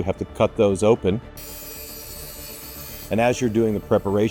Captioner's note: machine whirs